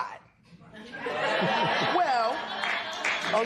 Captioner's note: laughter and applause